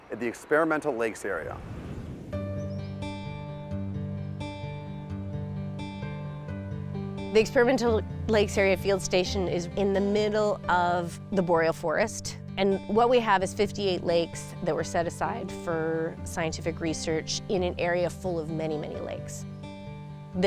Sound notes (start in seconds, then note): 1.0 air whooshing; 2.0 calming music